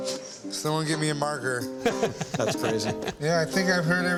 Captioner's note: laughter